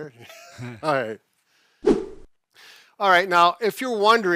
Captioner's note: air whooshes